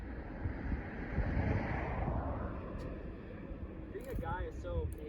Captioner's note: passing car whooshes